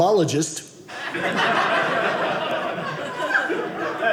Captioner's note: audience laughing